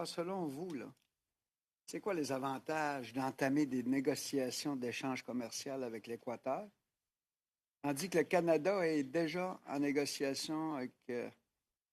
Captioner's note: speaking French